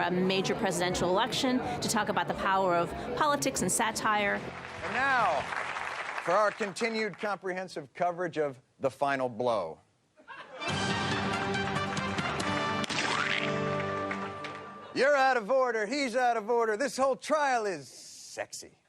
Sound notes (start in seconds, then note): 10.2 audience laughter